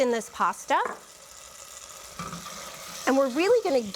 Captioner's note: sizzling